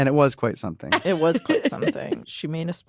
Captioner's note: laughs